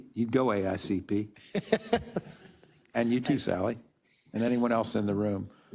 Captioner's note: laugh